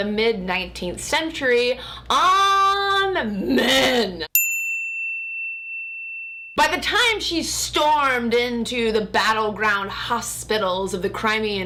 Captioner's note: bell chimes